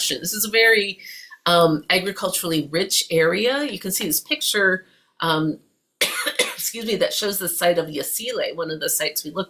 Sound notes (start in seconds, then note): 6.0 cough